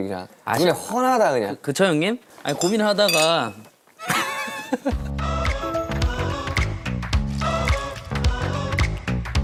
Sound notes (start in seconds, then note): 2.4 rummage